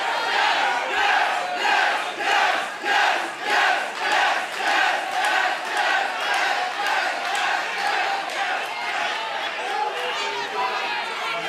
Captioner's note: cheers and applause; fans chanting